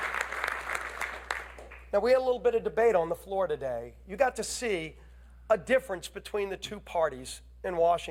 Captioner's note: applause